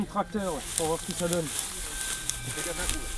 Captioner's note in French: bruit du blé qu'on écrase